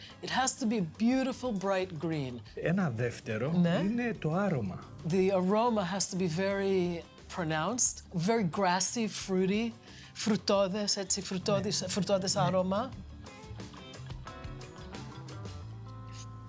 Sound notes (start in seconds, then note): 3.2 speaking in greek; 10.3 speaking in greek